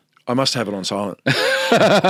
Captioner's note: both laughing